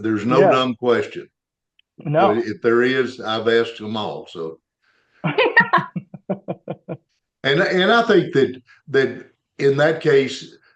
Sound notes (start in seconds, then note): 5.3 laughter